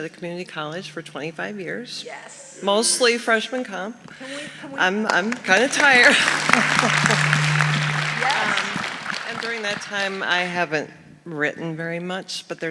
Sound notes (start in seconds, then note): 6.7 audience applauding